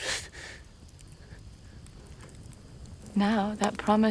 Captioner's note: fire crackling